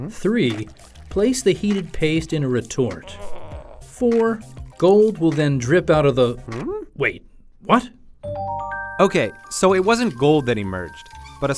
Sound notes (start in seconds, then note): 6.1 inquisitive grumble; 8.3 chiming bell